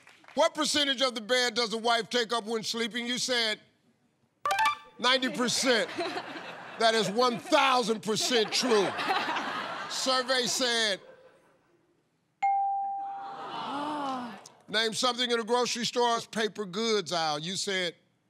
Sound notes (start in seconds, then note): 5.2 laughter; 12.9 audience murmuring